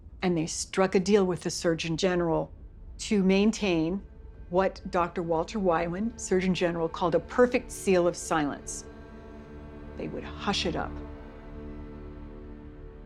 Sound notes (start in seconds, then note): none